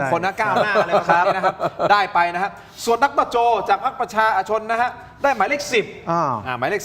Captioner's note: laughter